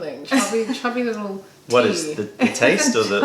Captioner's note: laughter